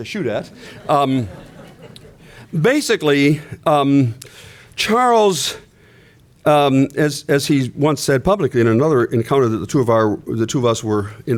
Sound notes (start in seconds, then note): 2.1 laughter